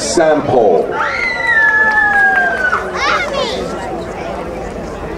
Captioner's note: crowd cheering